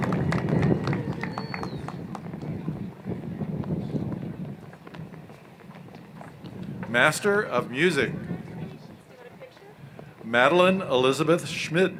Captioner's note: applause